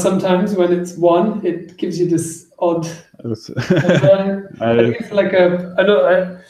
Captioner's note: laughs